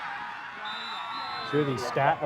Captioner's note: whistle blows